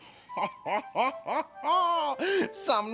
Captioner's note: laughing